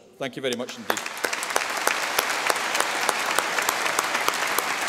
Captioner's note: audience applause